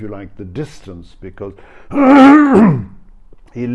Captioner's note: clears throat